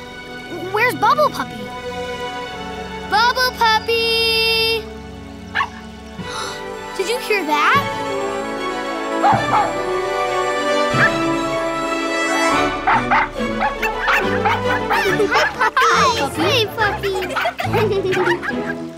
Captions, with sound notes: where's Bubble Puppy? Bubble Puppy! [barking] [gasping] Did you hear that? [barking] [barking] [barking] Hey puppies! Hi puppy! Hey puppy. [laughing]